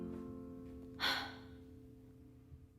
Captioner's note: sighs